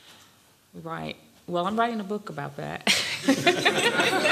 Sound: laughter; laughs

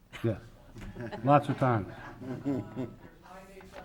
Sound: many laughing

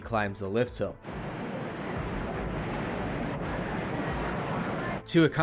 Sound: smooth steel coaster sound

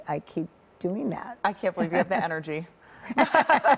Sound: laughter

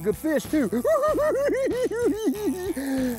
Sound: giggling

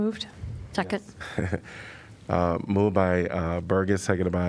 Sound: laughter

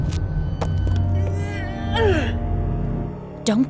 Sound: Nancy strains to pull herself up

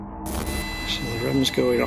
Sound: machine buzzing

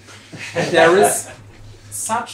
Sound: laughter

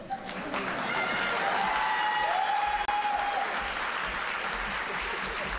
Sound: audience cheering and applauding

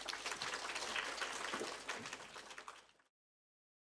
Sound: audience applauds

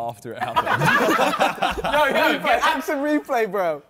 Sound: men laughing

